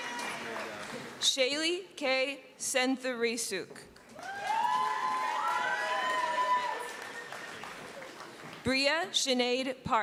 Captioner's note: cheering